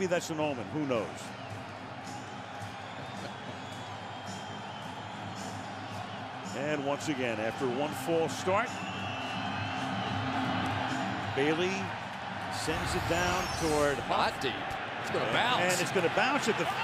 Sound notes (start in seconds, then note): 4.1 crowd cheering